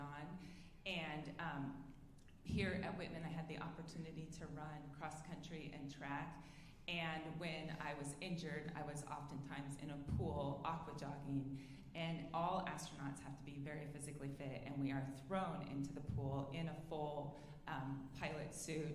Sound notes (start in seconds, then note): none